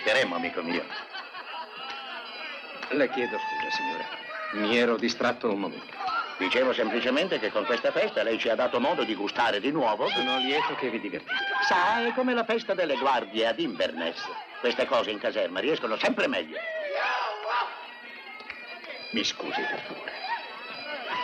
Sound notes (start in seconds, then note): 9.7 hollering; 16.5 men whooping